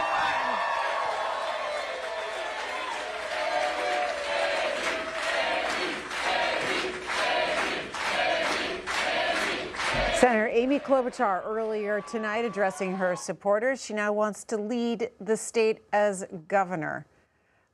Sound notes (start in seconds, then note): 4.5 cheers and applause